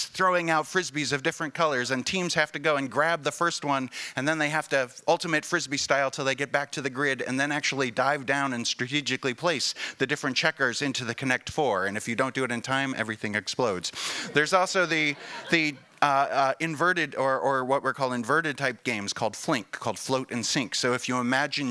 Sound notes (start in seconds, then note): 14.8 laughing